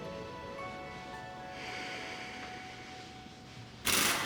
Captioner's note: sighs